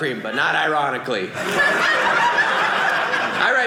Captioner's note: audience laughing